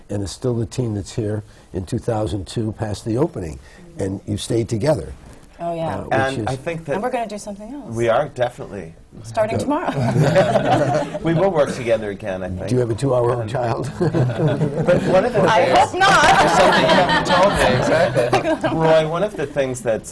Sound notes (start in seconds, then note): 11.4 laughter; 13.8 laughter